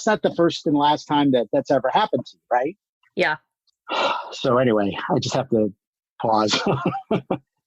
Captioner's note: frustrated sigh